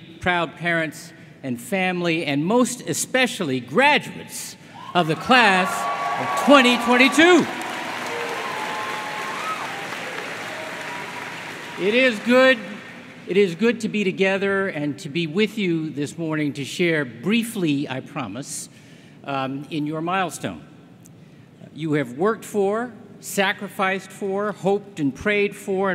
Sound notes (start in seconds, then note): 11.9 applause